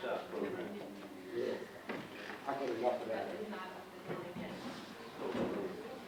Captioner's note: audience chatting indistinctly